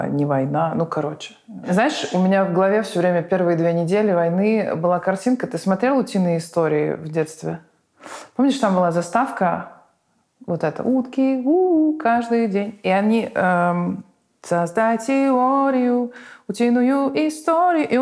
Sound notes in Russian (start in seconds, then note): 10.9 напевает; 14.4 поет